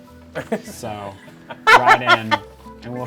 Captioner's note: laughing